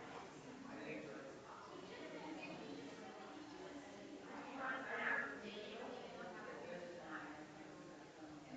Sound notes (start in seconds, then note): 0.0 people chattering distantly continues